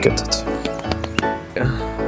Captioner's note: irritated clapping